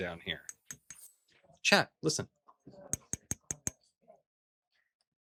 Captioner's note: taps canister; taps canister